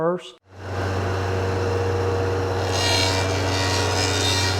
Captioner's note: planer Running